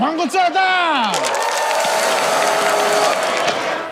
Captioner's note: audience cheering, applauding